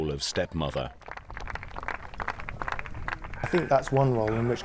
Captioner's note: crowd clapping